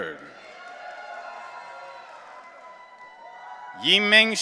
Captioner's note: audience cheering